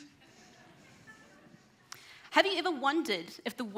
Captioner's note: audience laughs